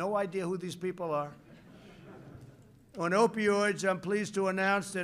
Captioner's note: laughter